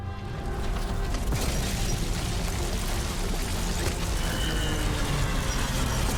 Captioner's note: explosion booms; rubble clatters